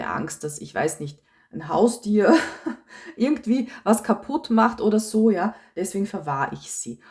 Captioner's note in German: gelächter